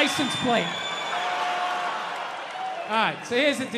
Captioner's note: crowd cheers